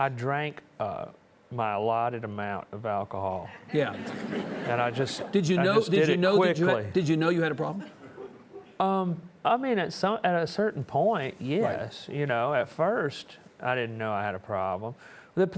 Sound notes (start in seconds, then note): 3.8 audience chuckling